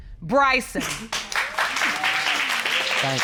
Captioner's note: audience applauding